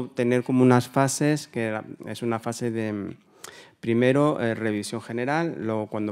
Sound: continues in Spanish

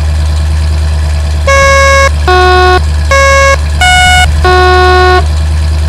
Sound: electric horn

